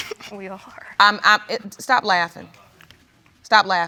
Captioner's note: continues snickering; stammers